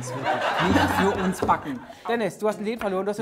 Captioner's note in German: Lachen